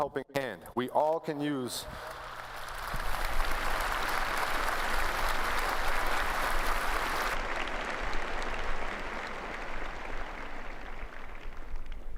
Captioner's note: applause